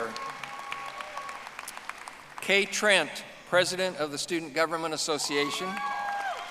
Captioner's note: audience applauding